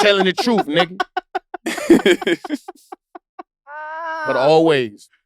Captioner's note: laughing